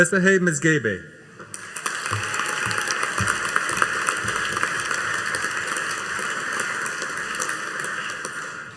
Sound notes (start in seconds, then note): 1.5 audience applauding